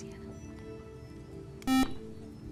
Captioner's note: buzzer